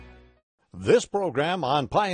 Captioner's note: voiceover